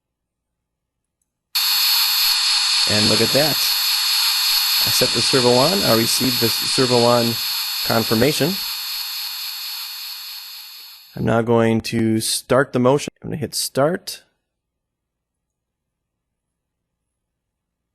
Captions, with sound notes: [servomotor noise] And look at that. I set the servo ON. I received the Servo ON confirmation. I'm now going to start the motion. I'm gonna hit Start can see that